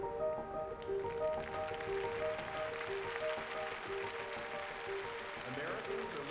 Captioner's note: crowd applauding